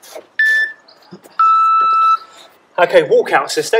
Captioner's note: beep